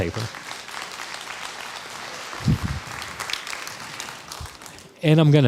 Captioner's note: crowd applause